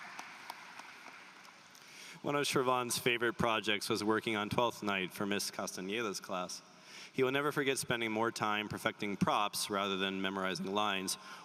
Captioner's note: applause